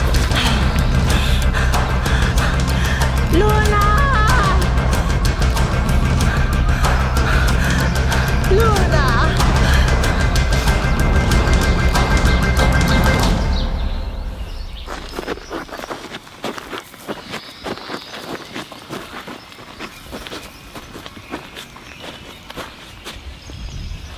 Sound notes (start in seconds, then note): 0.2 dramatic music continues; 5.6 dramatic music continues; 15.3 gravel crunching; 21.4 birds chirping